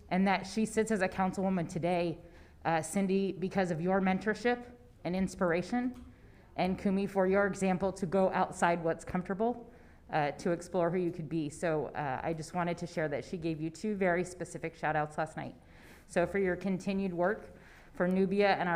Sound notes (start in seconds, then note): none